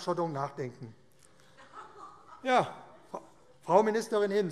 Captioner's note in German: Lachen DIE LINKE und Ministerin Priska Hinz